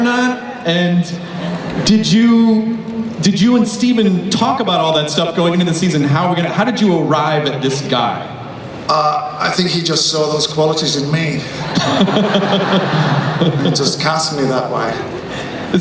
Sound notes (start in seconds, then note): 11.4 laughing